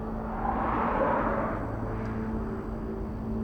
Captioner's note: car whooshing